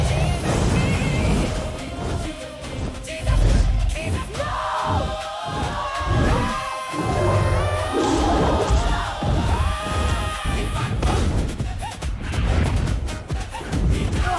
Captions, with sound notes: (dragon breathing fire) ARCHANGEL: No!